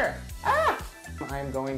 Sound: host screams

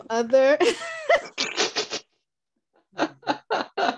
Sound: both laugh

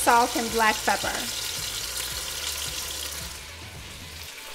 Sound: pan sizzling

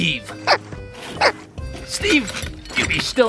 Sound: bird squawking

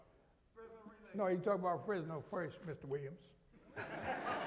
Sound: laughter

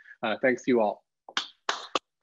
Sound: claps

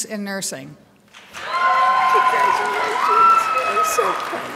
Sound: crowd applauds

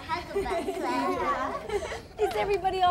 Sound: everyone laughs

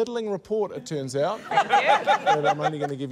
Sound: laughter

